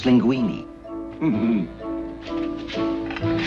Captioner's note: chuckles